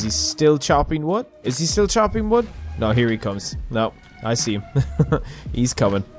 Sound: chuckle

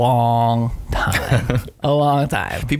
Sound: laughing

